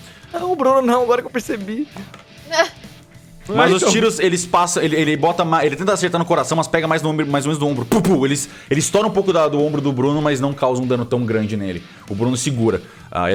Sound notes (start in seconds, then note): 3.5 Kalera laughs; 7.9 pow pow